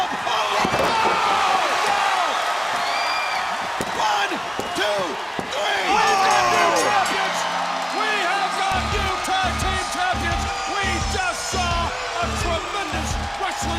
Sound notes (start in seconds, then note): 0.8 crowd cheering